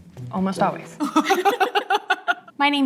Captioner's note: laughter